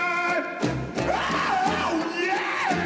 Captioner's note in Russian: крик